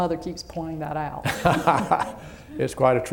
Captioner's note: laughter